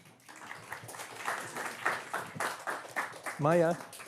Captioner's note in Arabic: تصفيق